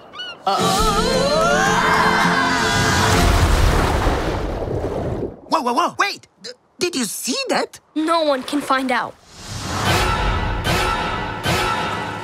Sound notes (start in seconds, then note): 0.2 screams; 9.9 horror music